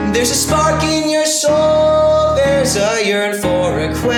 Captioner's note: none